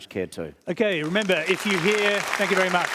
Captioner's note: applause